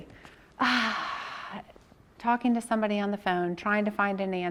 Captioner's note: sighs